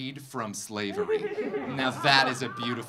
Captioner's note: audience laughing